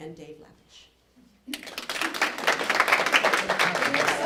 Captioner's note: applause